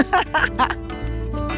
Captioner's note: laughs